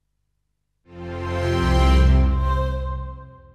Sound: low hum

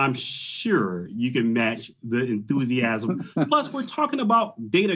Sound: laughs

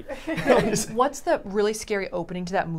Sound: all laugh

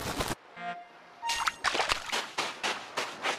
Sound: footsteps

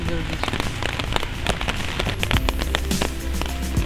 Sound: sound of raindrops

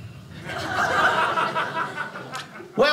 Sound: audience laughing

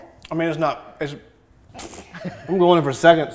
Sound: laughs

